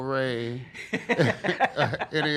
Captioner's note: laughs